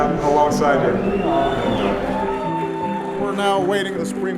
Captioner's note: crowd cheering